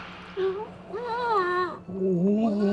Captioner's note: whimpering